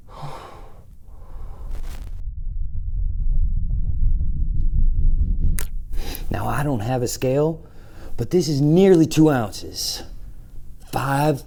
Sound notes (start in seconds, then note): 1.8 screen scrambles; 6.0 light clicks